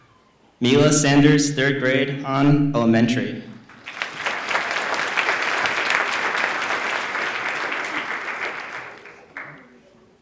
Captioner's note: applause